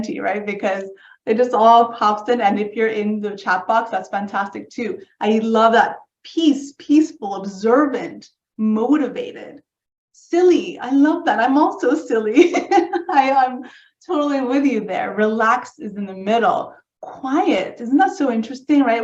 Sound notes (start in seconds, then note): 12.2 laughs